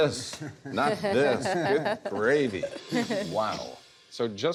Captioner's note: laughter